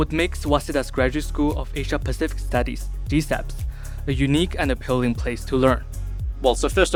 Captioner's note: gsaps